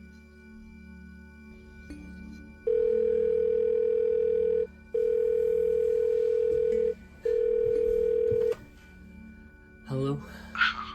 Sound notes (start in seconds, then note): 2.6 phone rings